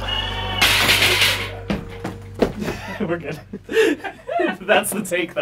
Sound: crash

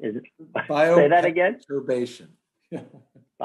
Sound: laughs

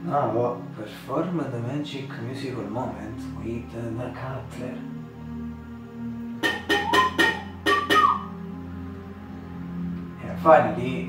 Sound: whistle

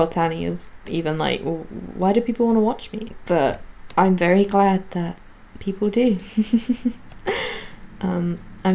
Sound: giggles

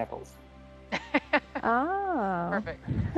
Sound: scientist laughs

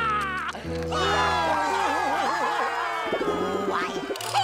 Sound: crying; cheering

